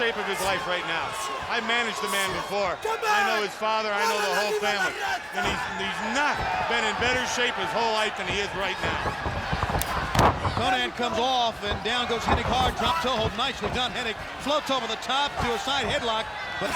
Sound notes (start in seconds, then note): 8.3 footsteps plodding; 9.0 body thudding